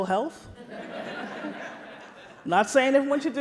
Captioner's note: audience laughs